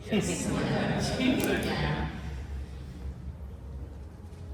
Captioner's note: giggles